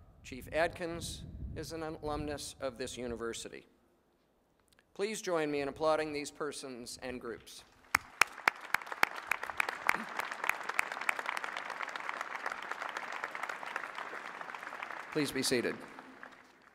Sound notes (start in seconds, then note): 7.8 applause